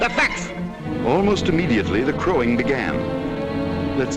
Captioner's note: voiceover